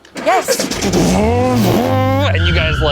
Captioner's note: revving